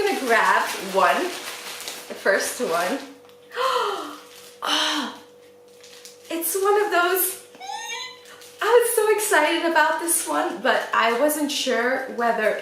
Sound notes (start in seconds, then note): 3.5 gasp; 7.6 squeel